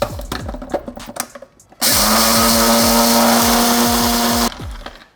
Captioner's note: blender hums